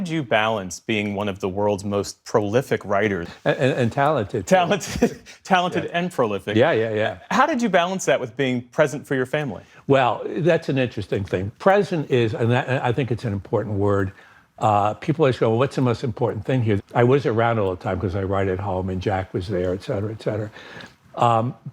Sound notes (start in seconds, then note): 4.6 laughter